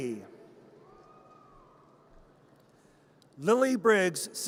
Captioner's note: audience cheers